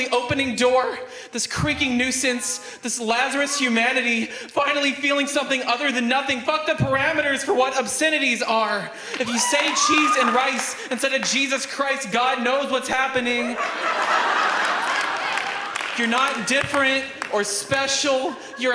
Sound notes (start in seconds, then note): 13.2 audience laughs